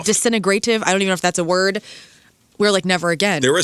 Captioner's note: none